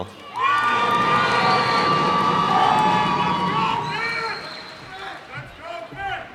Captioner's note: cheers and applause